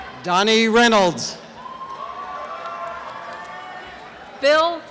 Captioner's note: applause and cheering